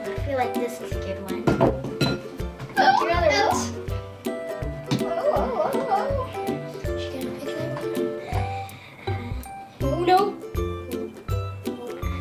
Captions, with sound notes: I feel like this is a good one. Oh no. [Children squealing] Nope.